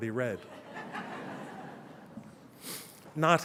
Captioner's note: laughter